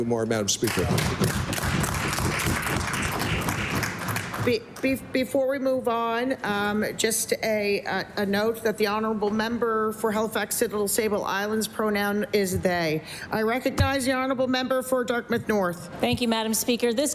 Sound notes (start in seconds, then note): 5.4 applause